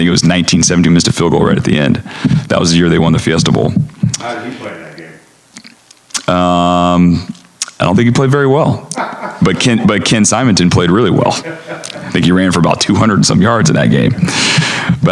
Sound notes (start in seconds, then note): 8.8 laughter